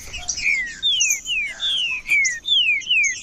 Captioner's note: trinca ferro cantando